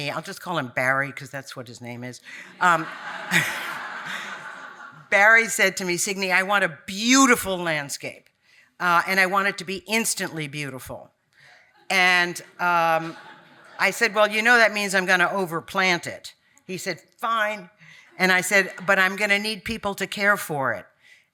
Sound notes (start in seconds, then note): 2.4 audience laughing